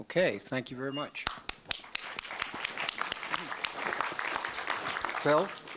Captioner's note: applause